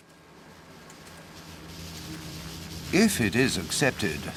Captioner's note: clicking softly